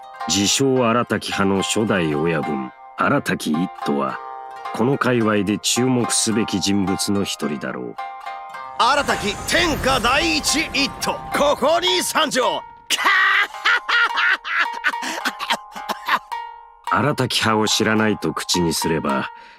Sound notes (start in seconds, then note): 13.0 cough